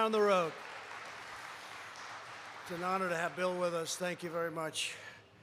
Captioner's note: applause